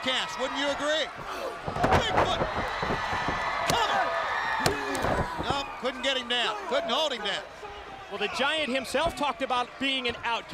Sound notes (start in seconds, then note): 4.0 crowd cheering